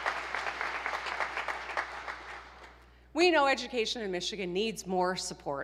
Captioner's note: applause